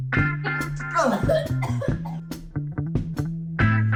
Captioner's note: coughing